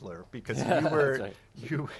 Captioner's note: laughs